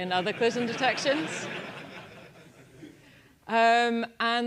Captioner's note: laugh